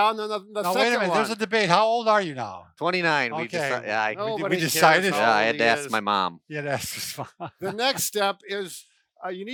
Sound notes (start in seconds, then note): 6.8 laughs